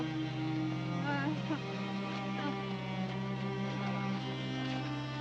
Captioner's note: groaning